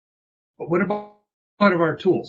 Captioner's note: voice distorted